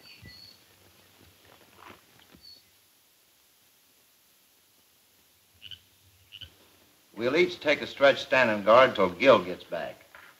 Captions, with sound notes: (frog croaking) - We'll each take a stretch standing guard 'til Gil gets back.